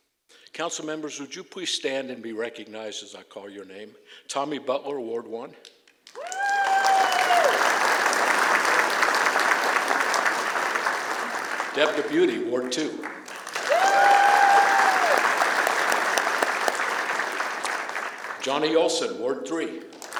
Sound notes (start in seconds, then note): 5.9 applause; 13.7 applause